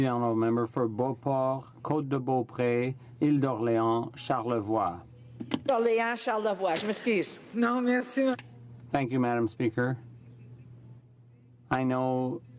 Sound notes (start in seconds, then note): 3.2 speaking in french